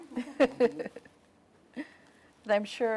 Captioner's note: laughing